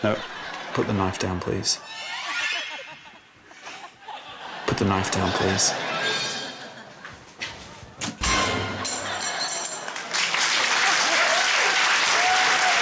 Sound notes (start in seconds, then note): 8.1 chilling music; 9.1 cheering, applause